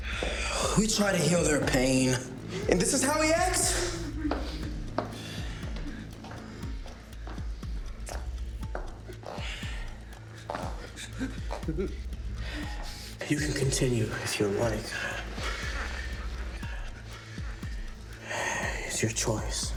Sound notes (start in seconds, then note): 4.4 footsteps tapping; 7.9 dramatic music; 16.2 dramatic music